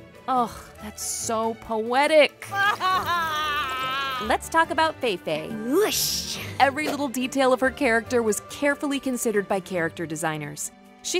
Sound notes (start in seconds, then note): 2.4 Chang'e crying